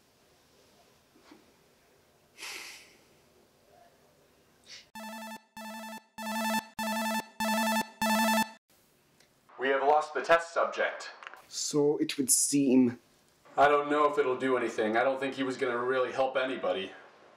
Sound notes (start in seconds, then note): 4.9 phone ringing